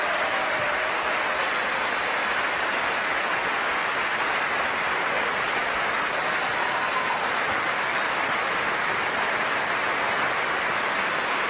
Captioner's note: applause